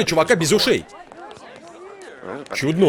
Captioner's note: <i>crowd murmuring</i>